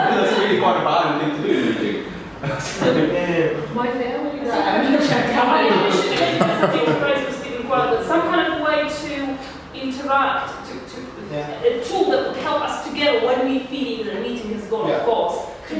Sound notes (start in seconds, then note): 4.8 group laughing; 5.6 laughing